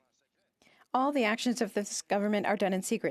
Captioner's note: speaking French